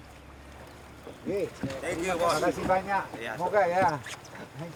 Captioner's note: man speaking Austronesian language